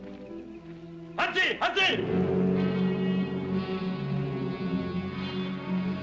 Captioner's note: soldiers speaking in German